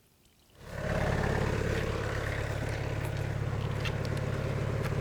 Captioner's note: telehandler engine rumbling